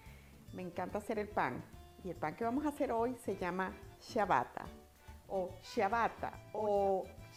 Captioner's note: Italian accent